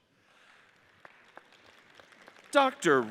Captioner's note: audience applauds